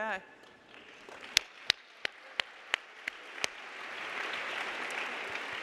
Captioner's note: audience applauding